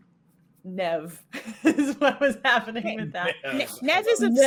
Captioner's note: laughing